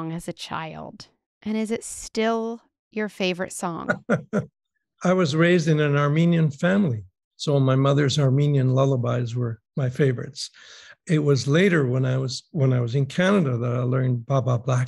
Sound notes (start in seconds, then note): 3.9 laughing